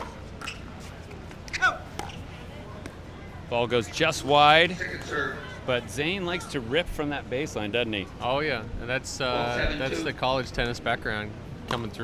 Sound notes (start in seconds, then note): 1.8 male player yells